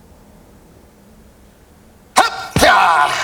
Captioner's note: exclaims